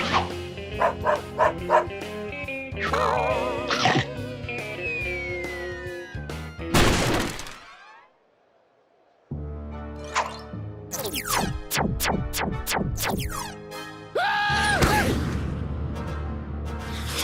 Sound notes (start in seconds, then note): 0.7 dog barks; 3.7 chomp; 6.7 crash; 14.1 yells